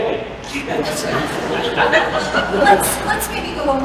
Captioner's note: laughter